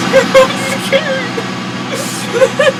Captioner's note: whimpers softly; nervous goblin laughter